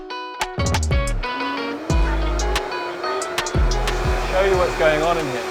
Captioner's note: upbeat music; blender whirring